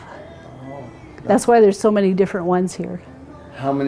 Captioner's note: none